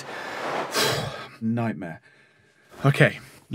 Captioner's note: sighs